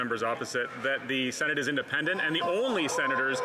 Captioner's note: some Applause